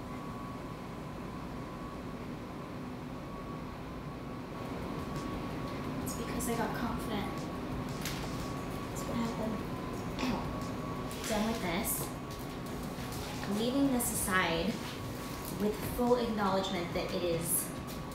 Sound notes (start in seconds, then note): none